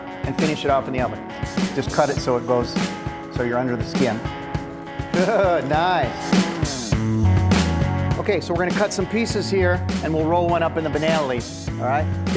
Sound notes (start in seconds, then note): 5.1 laughing